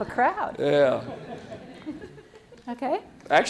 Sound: laughter

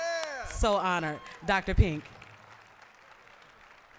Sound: applause

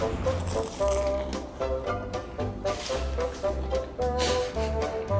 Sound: bread crunching; laughs

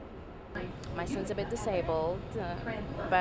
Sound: voiceover

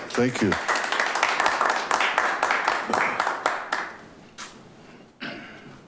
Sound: attendees applaud

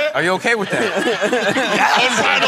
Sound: laughter

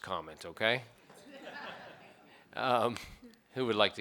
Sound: board members laugh

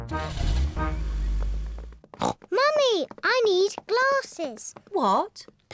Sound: neighs; snorts

